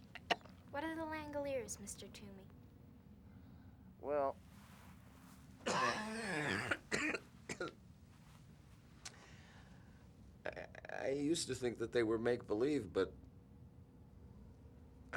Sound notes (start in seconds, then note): 5.6 coughs